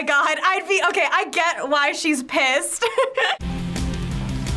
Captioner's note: laughs; rock intro